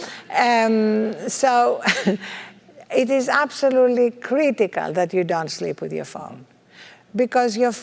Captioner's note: laugh